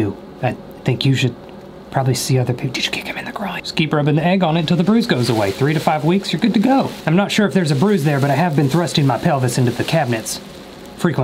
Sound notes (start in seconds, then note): 1.9 whispers